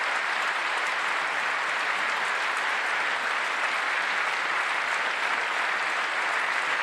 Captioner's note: applause